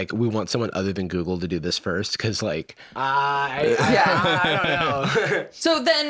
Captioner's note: laughs